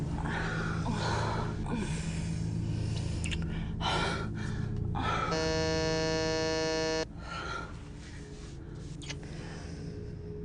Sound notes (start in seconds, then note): 0.1 moaning; 5.3 doorbell buzzing